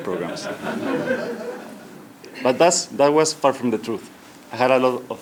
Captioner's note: laugh